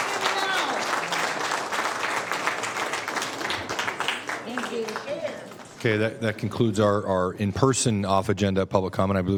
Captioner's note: cheers and applause